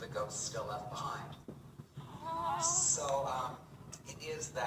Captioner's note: couple of audience members saying, “Aw…”